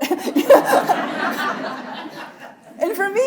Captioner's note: laughing; audience laughing